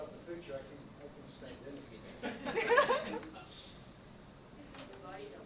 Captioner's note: board murmurs and laughs